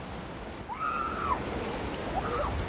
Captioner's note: excited screaming